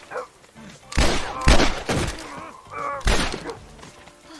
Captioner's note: gun shots